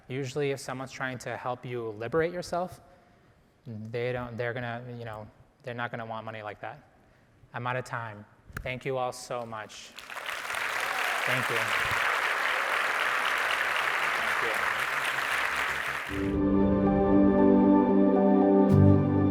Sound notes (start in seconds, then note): 9.9 audience applauding; 16.2 gentle music